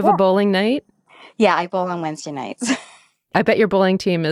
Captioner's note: chuckles